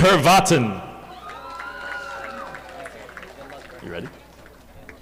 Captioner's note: audience applauding